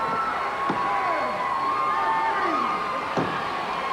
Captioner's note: crowd yelling